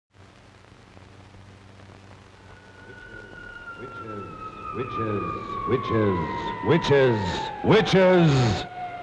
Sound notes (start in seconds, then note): 5.7 echoing